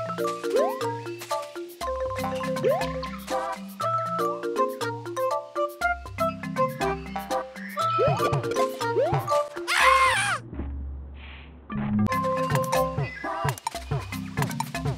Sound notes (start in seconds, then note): 9.7 Mario screams